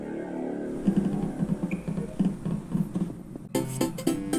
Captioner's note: walking